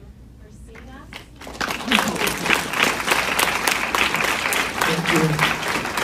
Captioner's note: warm applause